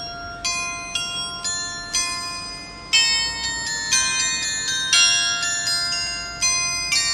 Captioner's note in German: glocke